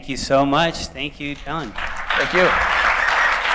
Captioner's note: applause